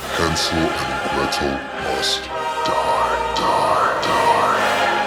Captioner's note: monster voice